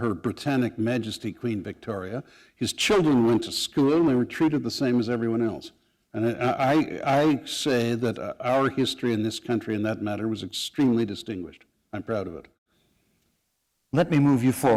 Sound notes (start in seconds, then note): none